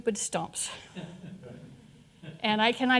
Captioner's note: audience laughing